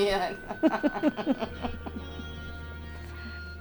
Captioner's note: laughing; somber music